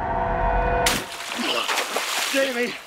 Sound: water splashing

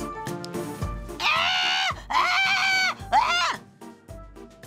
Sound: screaming

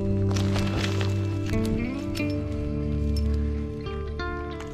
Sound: spade thwacks; gravel crumbles; gentle music

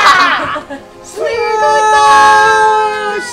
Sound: shouting

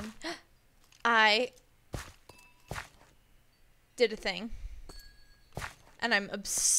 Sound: gasps

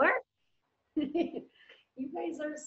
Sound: laughing

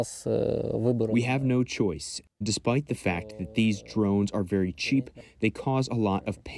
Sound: through translator

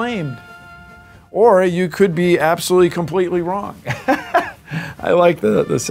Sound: laughs

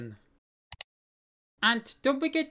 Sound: click sound

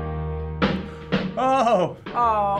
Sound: excitedly

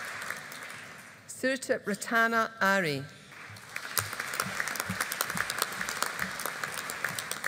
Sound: audience applauding

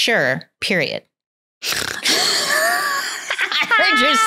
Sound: snorts; laughs

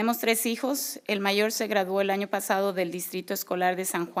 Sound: speaking spanish

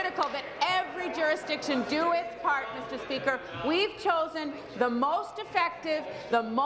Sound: applause

